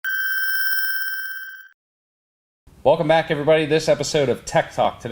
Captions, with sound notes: (rapid beeping sound) - Welcome back everybody, this episode of tech-talk